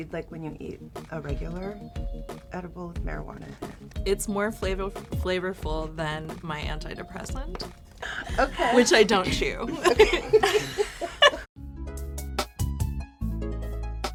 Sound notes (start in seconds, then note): 10.2 all laughing